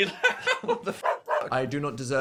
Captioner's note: dog barks; Phil laughing; dog barks